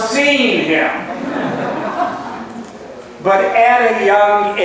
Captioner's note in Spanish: laughs